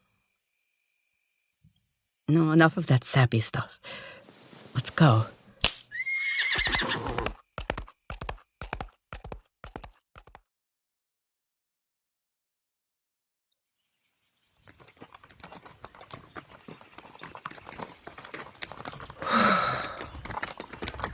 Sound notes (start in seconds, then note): 7.6 reins crack